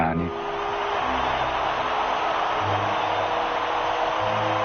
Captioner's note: crowd cheering